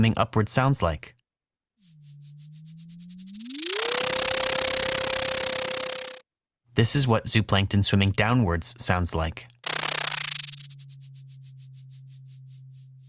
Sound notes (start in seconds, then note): 1.8 high-pitched fluttering; 9.6 fluttering